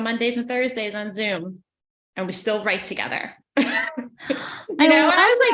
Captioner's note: laughs